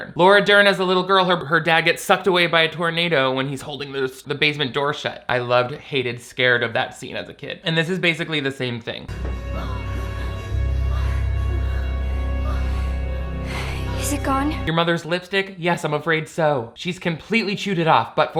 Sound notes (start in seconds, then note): 9.1 scary music; 10.9 woman sighs